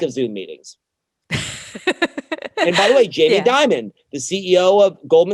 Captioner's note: laughs